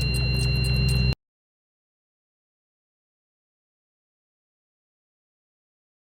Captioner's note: silence